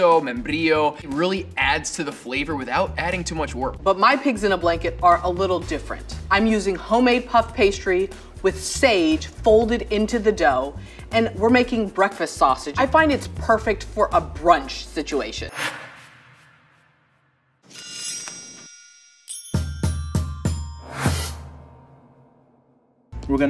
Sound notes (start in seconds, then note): 15.5 whoosh; 17.7 metallic clang; 18.1 percussive music